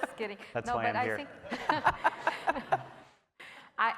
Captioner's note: laughing